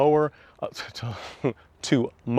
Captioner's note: laughs